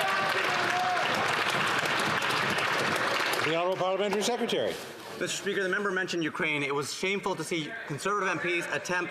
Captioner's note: some Applause